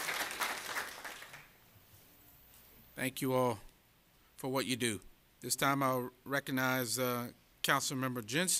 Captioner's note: applause